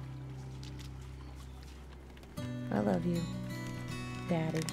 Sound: splashing water

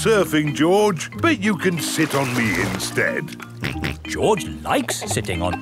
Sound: snorts

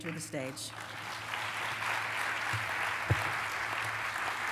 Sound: applause

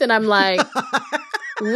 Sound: laughter

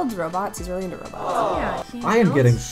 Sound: crowd Aww-ing

